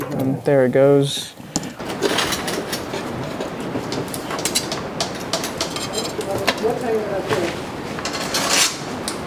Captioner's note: vacuum sound